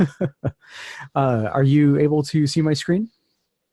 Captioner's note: laughter